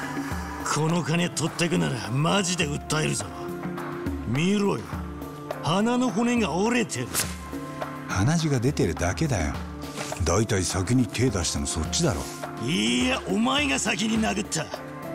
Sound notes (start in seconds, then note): none